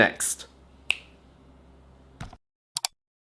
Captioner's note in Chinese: 点击